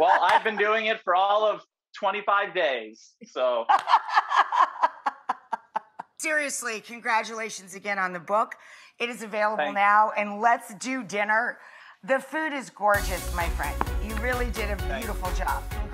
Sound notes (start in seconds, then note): 3.7 laughs